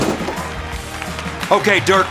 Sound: cheering

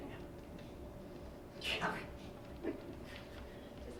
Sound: laughing

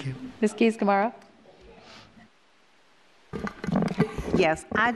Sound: laughs

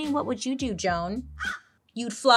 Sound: caws

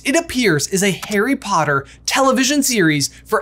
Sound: button clicks

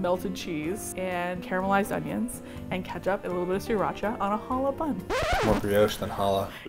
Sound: record scratch

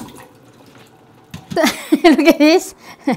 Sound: laughs

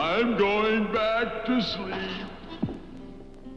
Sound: ground rumbles; mellow orchestral music

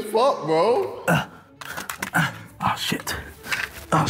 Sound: grunting

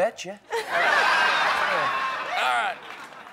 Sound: laughter

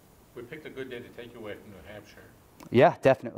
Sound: voiceover

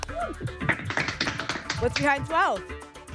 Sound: applause

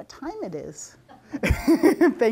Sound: laughter

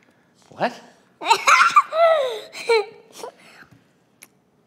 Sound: laughs

